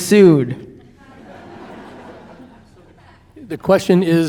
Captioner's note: audience laughing